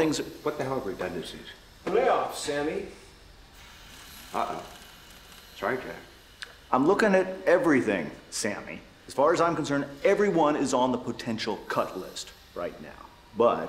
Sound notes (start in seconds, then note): none